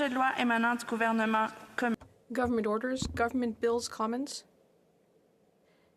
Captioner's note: speaking French